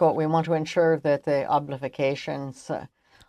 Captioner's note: speaking french